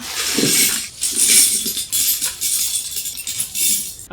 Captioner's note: legos spilling